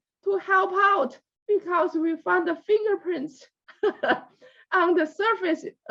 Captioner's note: laughs